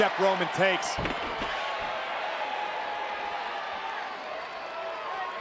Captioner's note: crowd cheering